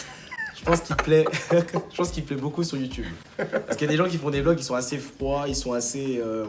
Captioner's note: laugh